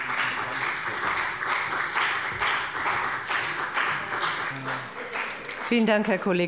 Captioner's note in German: Beifall bei der CDU und dem BÜNDNIS 90/DIE GRÜNEN